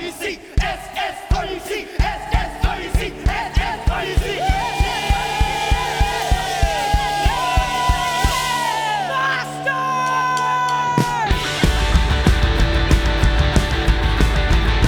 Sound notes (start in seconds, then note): 0.1 they chant; 4.3 cheers